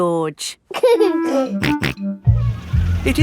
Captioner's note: giggling and snorting